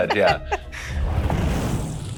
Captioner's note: laughing